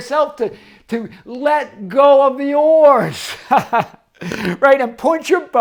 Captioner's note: laughs